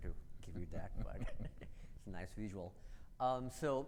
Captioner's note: both laugh